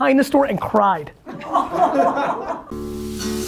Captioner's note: group laughter